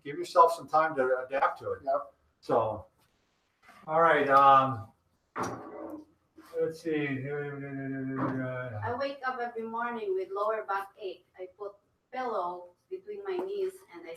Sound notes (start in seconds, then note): 5.8 mumbling